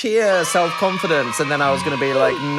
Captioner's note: children cheering